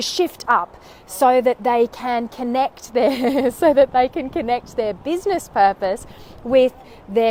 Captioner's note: laughs